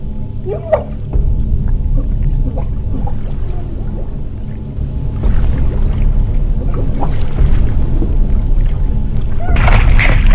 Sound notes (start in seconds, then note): 0.0 water, crickets